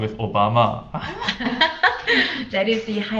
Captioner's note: both laughing